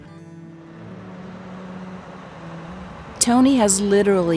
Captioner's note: truck tire noises